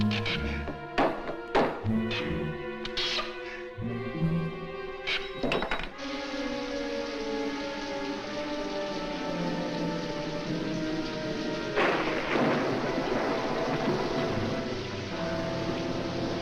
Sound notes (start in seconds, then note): 1.1 nail Squeaks, Clatters; 10.9 thunderclap